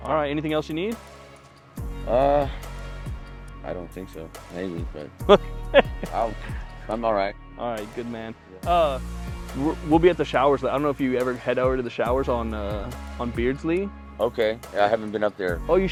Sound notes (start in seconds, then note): 5.2 chuckles